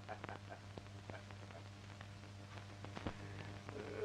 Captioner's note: laughing